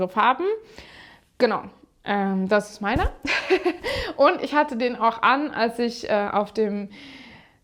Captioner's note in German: gelächter